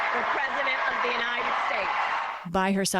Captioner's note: cheering and applause